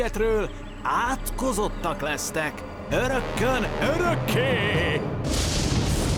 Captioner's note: spooky voice; thundering